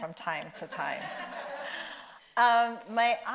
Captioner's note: audience laughs